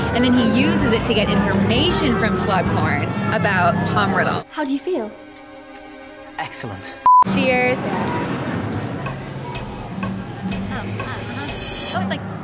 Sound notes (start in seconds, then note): 7.0 beep; 8.7 clock ticking